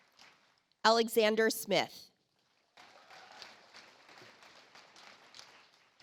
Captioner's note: audience applauds